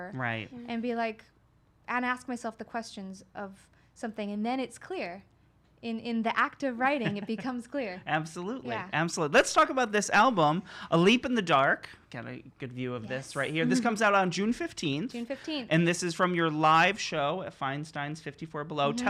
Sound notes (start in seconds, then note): 7.0 laughs